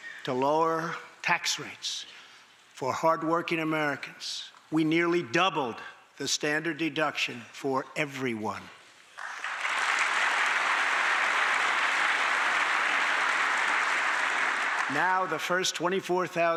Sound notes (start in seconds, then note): 9.1 applause